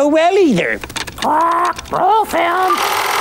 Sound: squawking

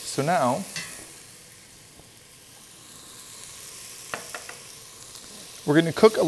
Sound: pan sizzling

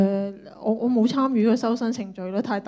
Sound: Cantonese

